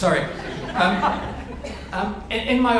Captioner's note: audience laughs